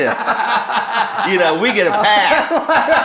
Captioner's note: laughing